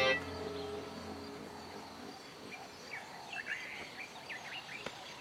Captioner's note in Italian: cinguettii